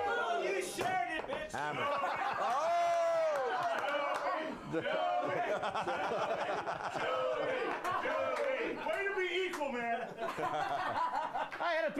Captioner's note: crowd